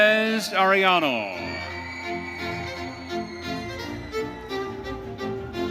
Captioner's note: audience cheering